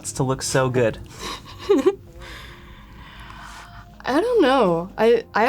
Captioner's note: giggles